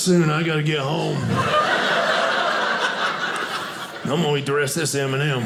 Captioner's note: audience laughing